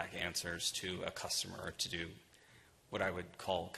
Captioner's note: none